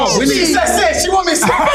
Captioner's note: overlapping chatter